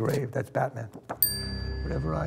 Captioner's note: bell dings